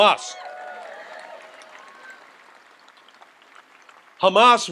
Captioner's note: audience applauds and cheers